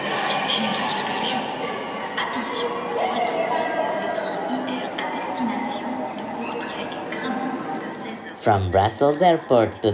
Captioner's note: loudspeakers